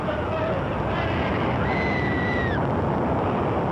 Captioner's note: indistinct shouting; screaming